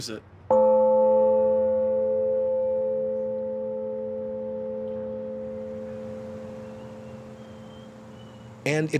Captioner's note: loud deep ringing